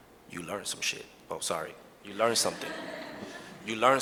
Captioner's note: audience laughs